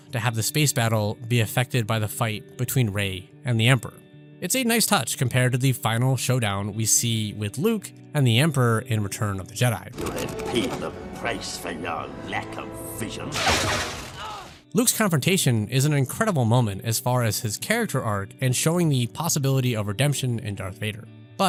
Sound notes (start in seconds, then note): 13.1 lightning crackles; 14.2 Luke screams in pain